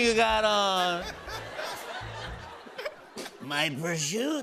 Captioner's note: laughter